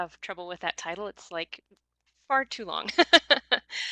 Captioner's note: laughs